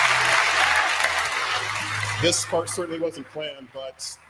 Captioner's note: applause